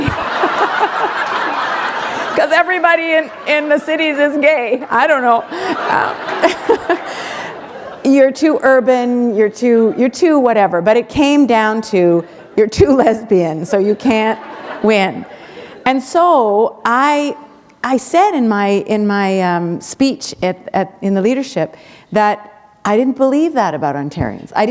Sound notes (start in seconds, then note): 0.0 laughter